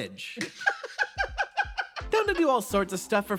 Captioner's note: laugh